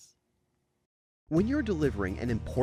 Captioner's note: voiceover